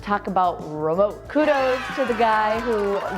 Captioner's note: cheering